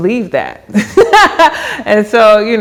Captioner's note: laughs